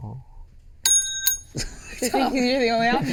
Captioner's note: ding